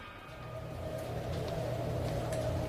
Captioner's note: door slams